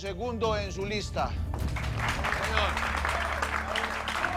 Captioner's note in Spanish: Aplausos